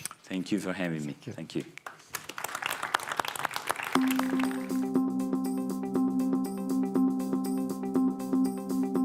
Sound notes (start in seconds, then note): 1.8 applause; 3.9 upbeat music